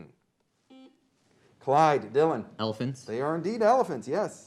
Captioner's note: beep